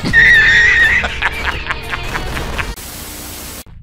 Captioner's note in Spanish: risa del jefe de Peter Parker